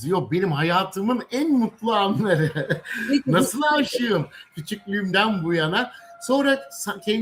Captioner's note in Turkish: kahkaha